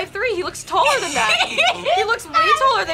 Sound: laughs

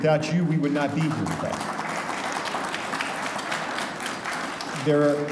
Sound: audience applauding

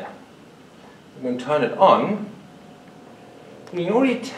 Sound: low hum

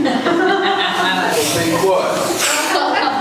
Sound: laughing

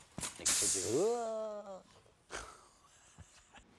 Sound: laughing

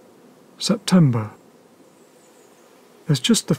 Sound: lower, more thoughtful tone

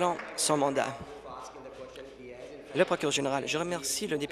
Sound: applause

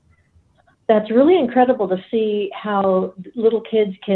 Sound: none

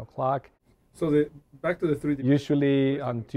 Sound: background Conversation

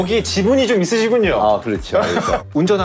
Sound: laughter

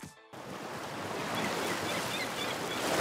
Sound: waves crashing; seagulls calling

